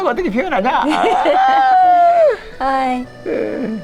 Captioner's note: both laughing